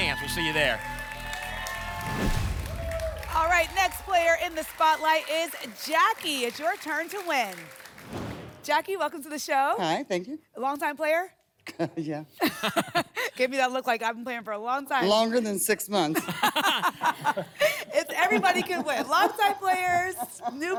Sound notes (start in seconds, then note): 1.7 whoosh; 8.0 whoosh; 16.1 laughter